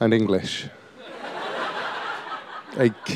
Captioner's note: laughter